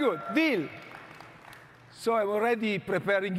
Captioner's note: audience clapping